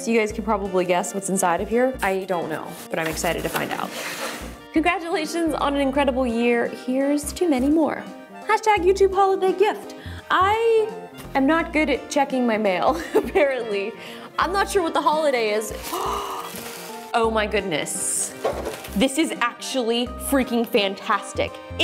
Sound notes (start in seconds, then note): 12.9 laughs; 15.8 gasps